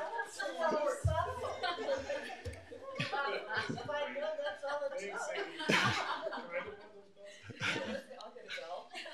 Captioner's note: laughter